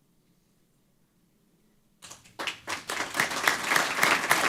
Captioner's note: applause